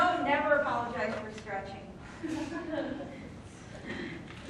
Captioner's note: laughter